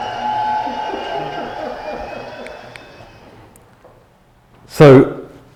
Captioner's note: audience cheering and applauding